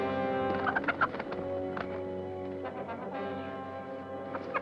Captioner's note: bird squawking